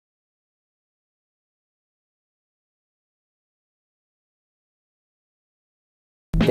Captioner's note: awkward pre-video silence